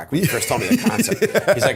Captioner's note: laughter